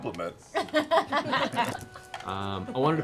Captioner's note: laughter